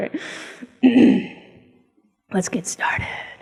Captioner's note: clears throat